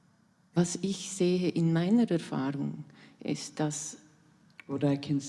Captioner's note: in German